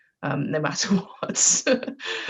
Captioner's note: laughs